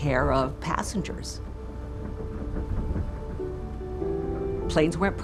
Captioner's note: engine whirring